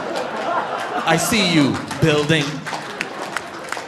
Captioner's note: audience laughing; laughs